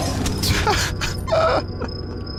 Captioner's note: laughs